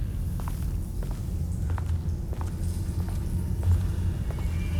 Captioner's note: footsteps; water dripping